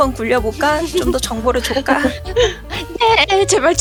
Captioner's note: laugh